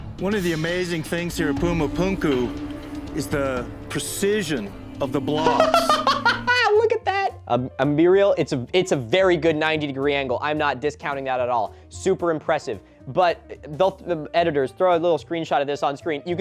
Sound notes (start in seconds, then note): 5.4 laughing